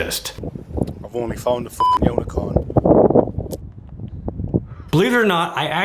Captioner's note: beep